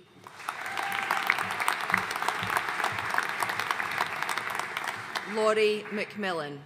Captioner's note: audience cheering and applauding